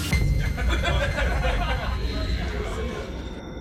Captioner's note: laughter